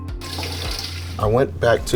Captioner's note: water splashes